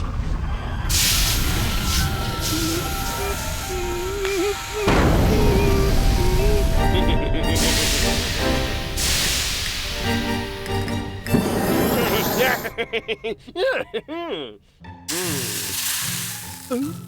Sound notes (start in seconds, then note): 2.6 whimpering; 4.7 volcano erupts; 6.9 chuckling; 11.7 laughing; 15.0 mustache sizzles